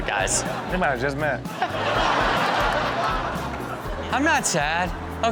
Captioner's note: audience laughs